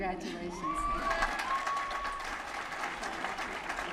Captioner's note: applause